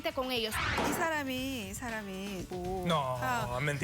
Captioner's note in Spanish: Mujer habla en otro idioma